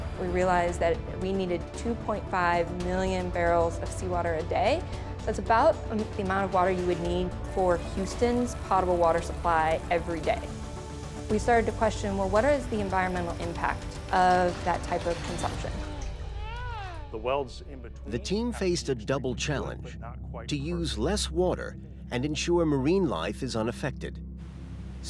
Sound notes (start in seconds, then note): 16.3 baby coos